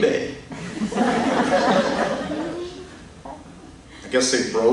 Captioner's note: laughter